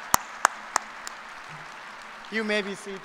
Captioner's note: applause